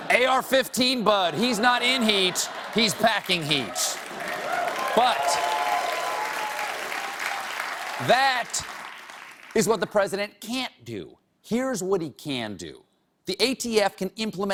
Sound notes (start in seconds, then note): 2.6 applause